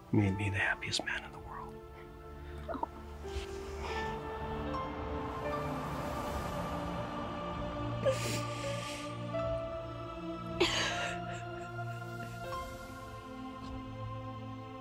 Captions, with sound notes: - You've made me the happiest man in the world. - Oh. (dramatic piano music) (Kate crying)